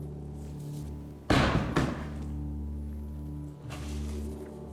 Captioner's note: book thuds; ominous music